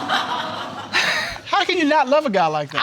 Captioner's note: audience laughing